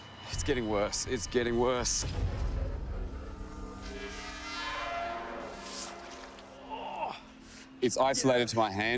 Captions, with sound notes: It's getting worse. It's getting worse. [grunt] It's isolated to my hand.